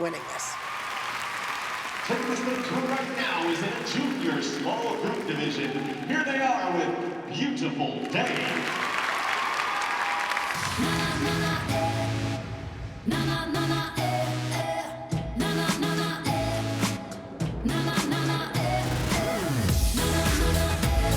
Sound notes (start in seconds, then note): 0.0 applause; 10.5 singing